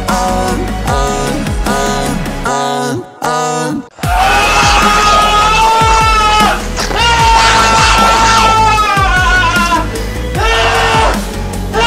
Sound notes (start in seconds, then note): 4.0 cumming sounds; 4.0 succ sounds; 10.3 cumming sounds